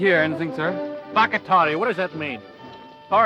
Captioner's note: speaking foreign language